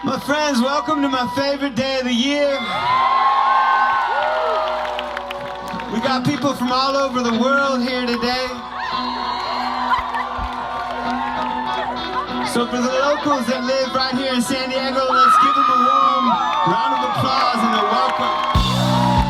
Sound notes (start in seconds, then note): 2.8 crowd cheering; 18.5 upbeat rock music